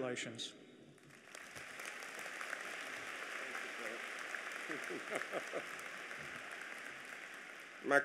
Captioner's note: applause